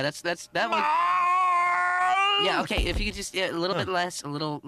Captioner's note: terrible groaning